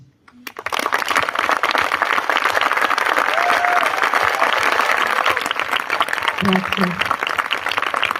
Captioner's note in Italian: applausi